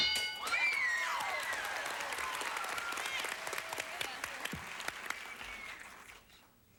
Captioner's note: audience applauding